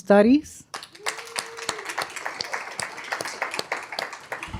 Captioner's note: applause